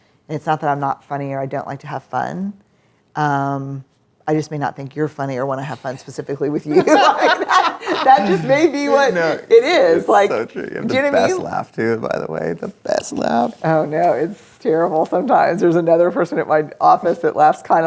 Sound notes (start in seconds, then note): 6.7 laughs